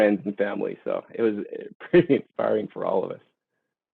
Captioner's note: laughing